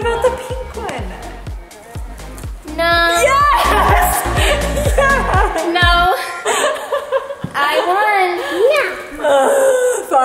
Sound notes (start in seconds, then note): 3.3 speaker 1 laughing